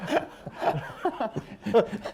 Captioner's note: laughter